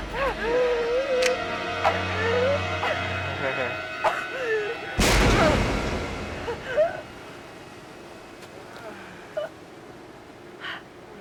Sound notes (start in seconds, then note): 0.3 chuckles; 5.0 gun firing